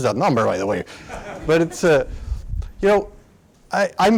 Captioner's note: laughter